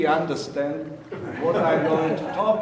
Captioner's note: audience laughing